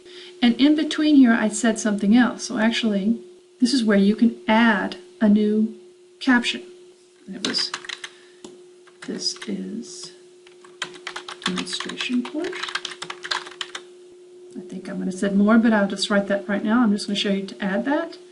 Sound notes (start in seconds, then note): 6.8 typing and reading aloud